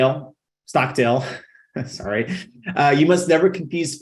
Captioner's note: chuckling